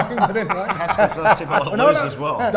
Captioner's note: laughing